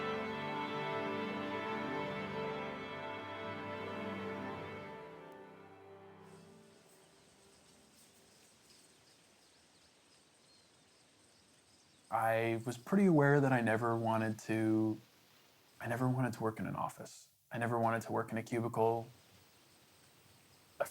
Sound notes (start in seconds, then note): 0.0 instrumental music continues; 7.9 birds chirping